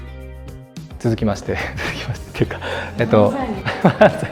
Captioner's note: laughs